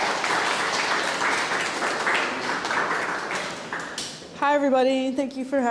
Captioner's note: audience clapping